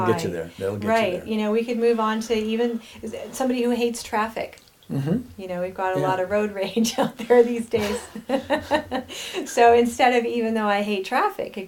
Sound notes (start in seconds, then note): 4.9 humming; 6.9 laughing; 8.7 chuckling